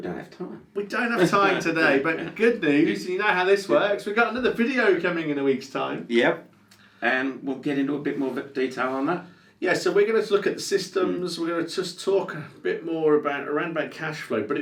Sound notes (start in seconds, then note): 1.7 laughs